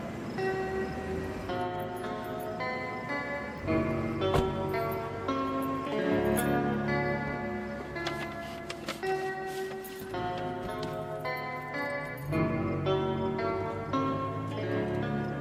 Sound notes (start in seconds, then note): 4.2 car door closing